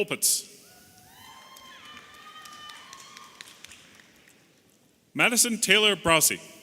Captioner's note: audience applauding and cheering